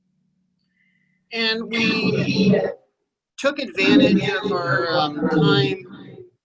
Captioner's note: audio feedback